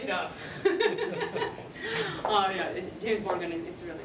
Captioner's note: laughter